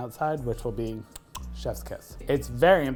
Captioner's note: tongue clicks